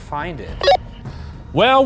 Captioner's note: radio beeps